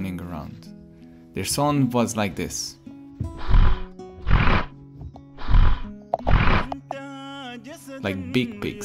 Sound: hippopotamus sound

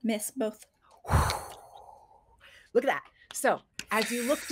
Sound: blows air

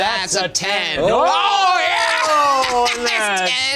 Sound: laughs

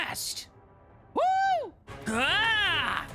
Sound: Sonic Voice

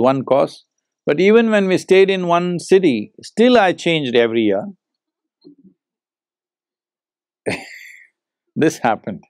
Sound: laughs

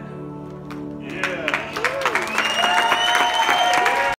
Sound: praise and applause

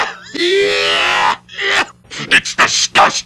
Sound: cough

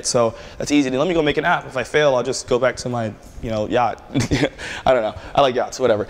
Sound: laughter

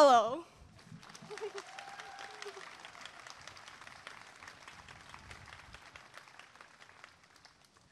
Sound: applause and cheering

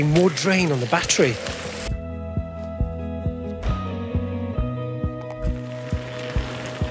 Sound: wheels zipping; upbeat music

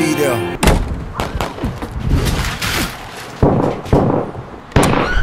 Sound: gunshots blasting

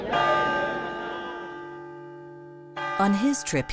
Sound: bell tolls

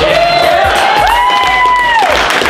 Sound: cheers

